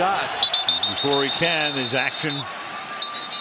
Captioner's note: whistle